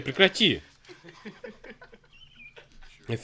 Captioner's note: laughter